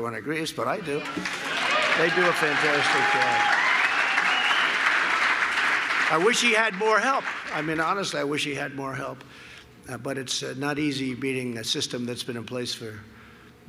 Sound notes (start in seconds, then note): 0.9 applause